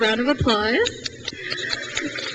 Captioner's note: crowd cheers